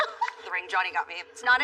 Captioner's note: laughs